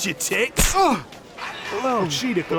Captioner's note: grunt; slap